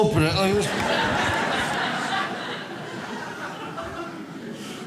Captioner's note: audience laughs